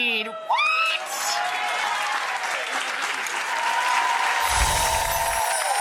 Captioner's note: audience clapping